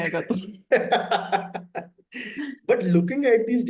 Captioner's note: laughs